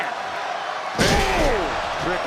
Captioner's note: bodies slam